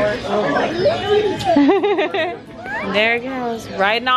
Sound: smooches; laughs

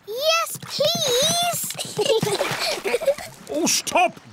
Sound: giggles

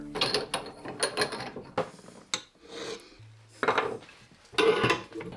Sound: tools rattle on bench

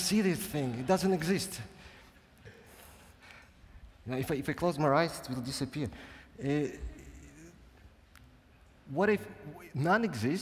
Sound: chuckles

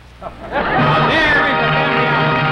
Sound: crowd laughs; upbeat dramatic music

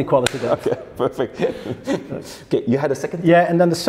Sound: laughs

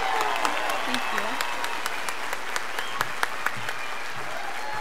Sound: audience applauding; students cheering

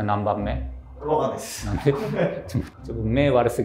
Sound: laughing

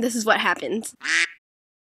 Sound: quack

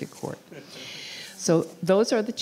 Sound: board laughing

